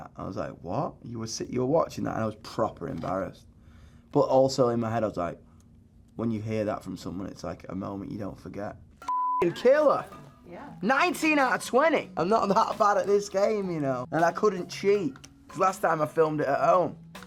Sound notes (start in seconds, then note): 9.0 beep